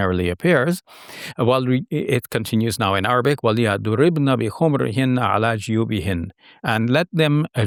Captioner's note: speaking in Arabic